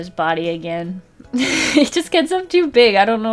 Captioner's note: laughs